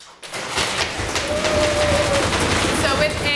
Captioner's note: audience applauds